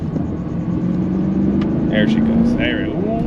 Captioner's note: engine revs softly